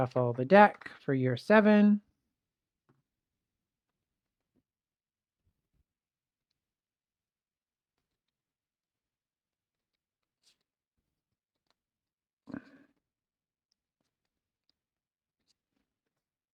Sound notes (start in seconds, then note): 3.4 silence